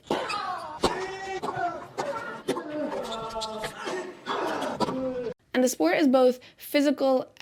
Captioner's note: a variety of grunts and groans